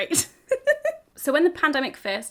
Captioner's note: woman laughs